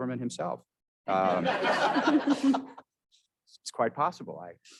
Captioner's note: all laughing